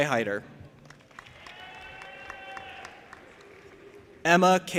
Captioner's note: audience applauding and cheering